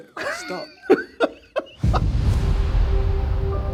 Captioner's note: laughing